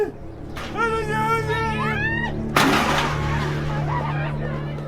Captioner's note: shouting, thud, screaming